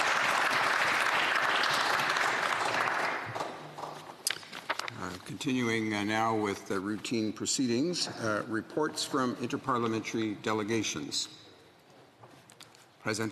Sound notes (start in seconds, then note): 2.4 applause